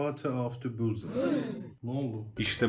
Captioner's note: the classroom gasps